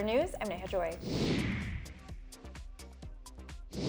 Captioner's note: whooshing